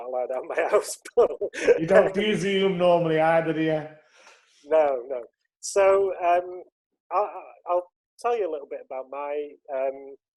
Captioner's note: laughs